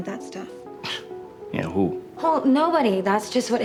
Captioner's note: scoffs